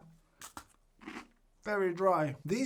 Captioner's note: loud crunch